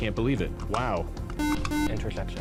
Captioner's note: beep